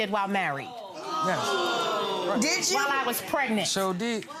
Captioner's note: gallery shouts